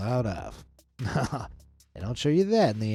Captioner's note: chuckles